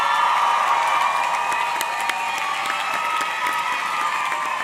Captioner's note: audience cheering; audience clapping